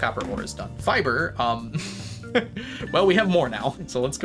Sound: laughs

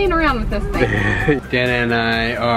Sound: laughing

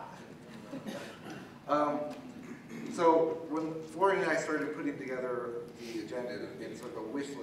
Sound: laugh

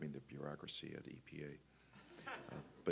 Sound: laughter

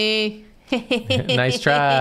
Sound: snickerring

